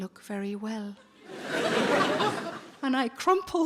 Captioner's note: audience laughing